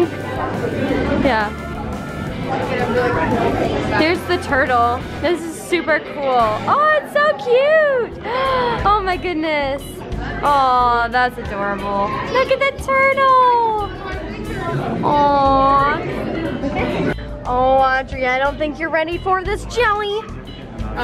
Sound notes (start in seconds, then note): 8.2 gasps